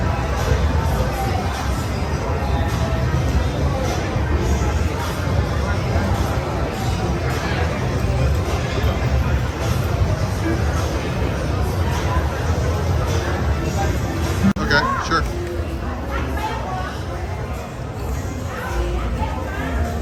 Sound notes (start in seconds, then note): 0.2 people chattering; 0.2 upbeat music; 13.6 speaks faintly; 16.1 people chattering